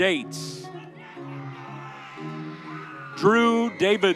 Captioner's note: audience cheering